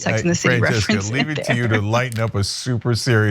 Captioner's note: laugh